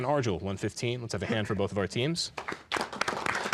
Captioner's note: applause